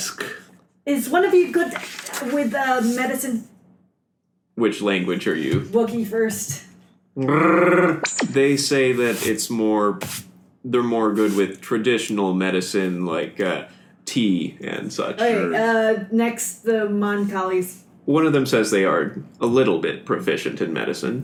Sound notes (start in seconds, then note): 7.2 Wookie growl